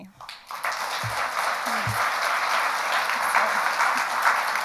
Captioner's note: audience applauds